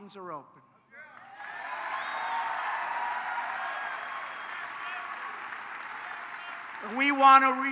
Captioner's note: applause